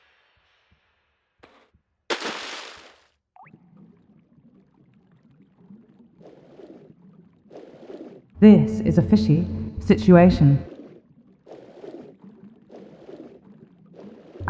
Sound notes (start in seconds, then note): 2.1 splash; 4.5 reverberation sounds